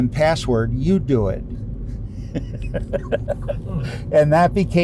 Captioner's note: laughs